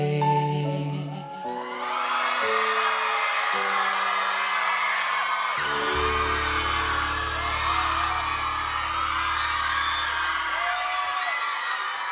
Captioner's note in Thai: ปรบมือ